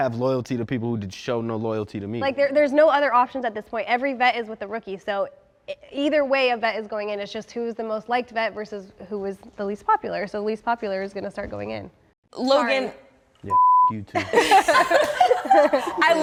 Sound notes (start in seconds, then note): 13.5 beep; 14.1 laughter